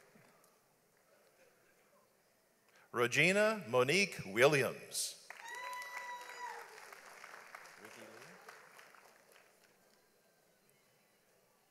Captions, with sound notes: RoGena Monique Williams. (audience applauds)